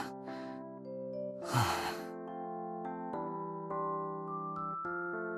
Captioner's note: sighing